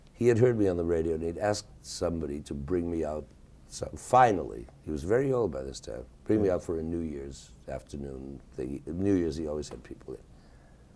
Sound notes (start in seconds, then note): none